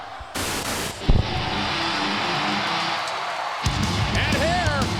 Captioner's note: crowd cheers; rock music plays